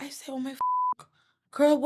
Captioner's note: beep